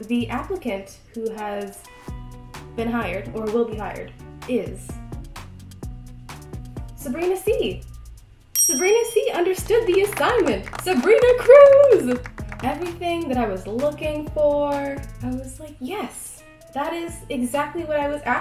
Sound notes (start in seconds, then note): 9.6 applause